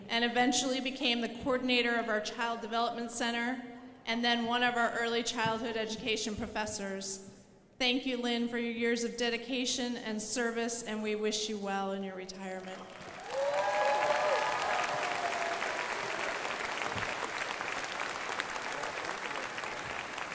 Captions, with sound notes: and eventually became the coordinator of our Child Development Center. And then one of our early childhood education professors. Thank you Linn for your years of dedication and service and we wish you well in your retirement. (crowd applauding)